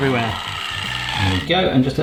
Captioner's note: mixer noises